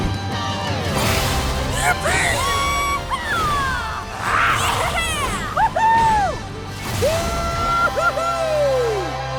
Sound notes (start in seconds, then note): 3.9 cheering